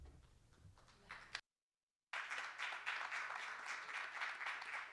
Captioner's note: audience applauding